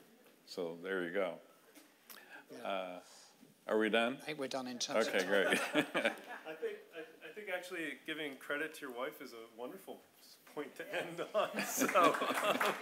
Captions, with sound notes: - So there you go. Are we done? - I think we're done in terms of time. - Okay, great. (audience laughing) - I think actually giving credit to your wife is a wonderful point to end on.